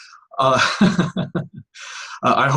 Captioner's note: laughs